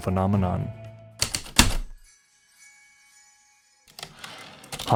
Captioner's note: heavy typewriter keystrokes, return slide